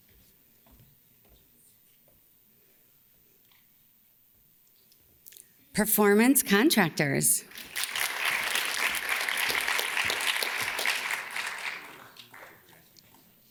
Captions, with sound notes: - Performance Contractors. (audience claps)